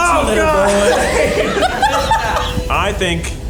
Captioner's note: all laugh